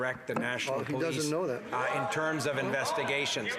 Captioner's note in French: voix de l'interprète